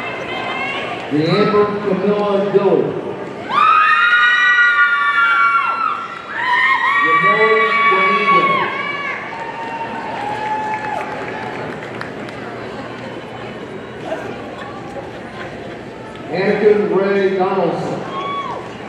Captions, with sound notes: DeAmber Kamila Dillard, (audience cheering) Yanneli Dominguez, (audience cheering and applauding) Anakin Ray Donelson,